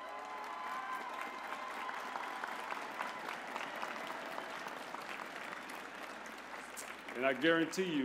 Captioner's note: cheers; applause